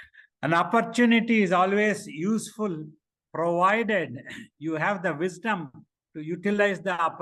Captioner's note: laughs